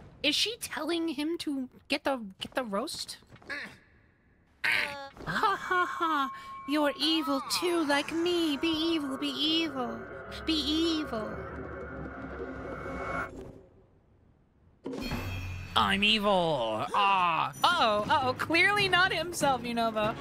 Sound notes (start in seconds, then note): 3.4 Yunobo Grunts; 4.6 Penny Grunts